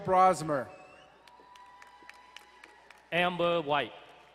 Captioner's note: crowd cheering and applauding